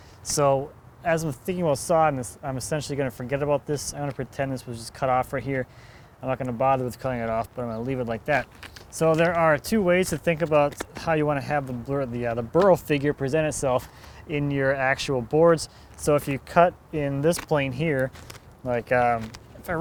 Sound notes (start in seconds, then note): none